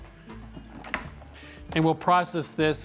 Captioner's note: lid clicks